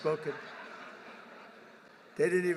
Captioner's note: laughter